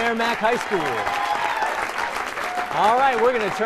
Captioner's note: applause